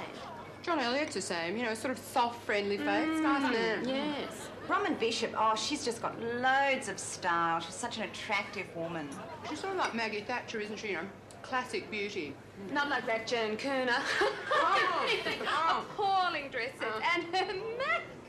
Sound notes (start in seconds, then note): 14.1 laughs